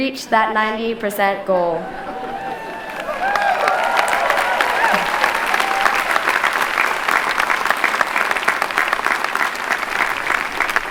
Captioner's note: clapping